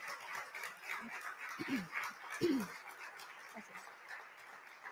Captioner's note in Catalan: aplaudiments